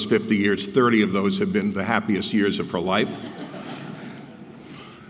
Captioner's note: laugh